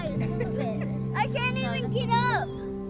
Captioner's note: chuckles